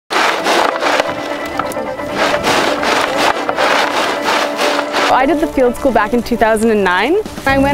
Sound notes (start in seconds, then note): 0.1 shuffling